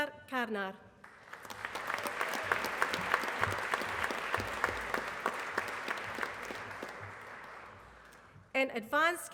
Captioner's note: applause